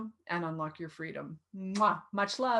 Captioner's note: kisses